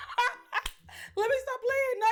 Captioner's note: laughs